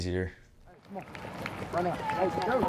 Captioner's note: applause